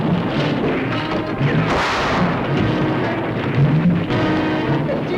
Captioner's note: gunshot